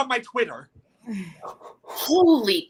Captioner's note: Josh groans